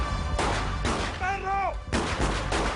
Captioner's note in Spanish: Disparos